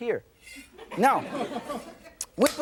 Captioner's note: laughter